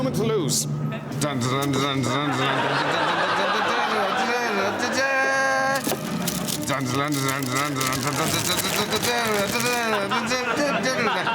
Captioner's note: sir digby hums ''devil's gallop'' by charles williams